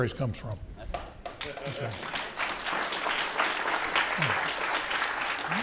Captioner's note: audience applauding